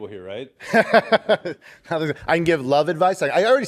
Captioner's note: laughter